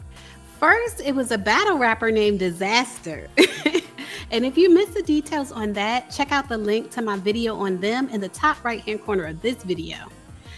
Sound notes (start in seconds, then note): 3.4 giggles